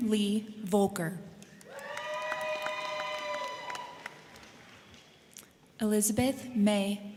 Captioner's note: crowd clapping; crowd cheering